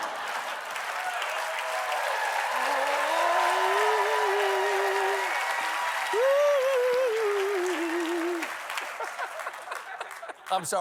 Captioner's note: applause